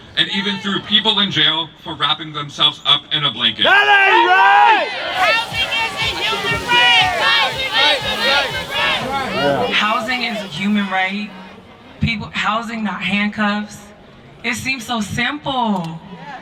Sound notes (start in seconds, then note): 5.5 crowd chanting: Housing is a human right!